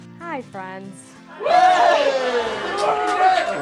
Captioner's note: cheers